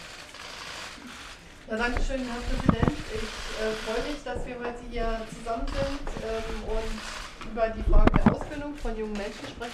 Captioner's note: speaks German